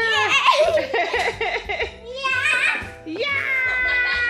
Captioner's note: mom laughing